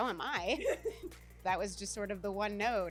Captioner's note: laughs